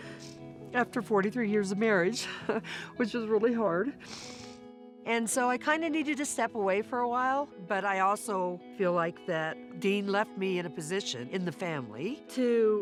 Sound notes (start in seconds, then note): 0.0 somber music; 0.3 says tearfully; 4.0 sniffles